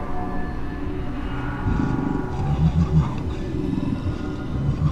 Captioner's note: growls, chuckles